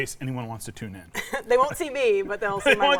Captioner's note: laughs